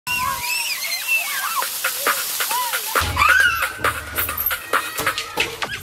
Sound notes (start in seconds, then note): 0.1 kids yelling, laughing